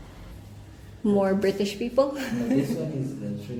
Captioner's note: laughs